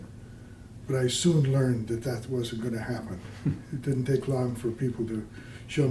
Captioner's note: laughter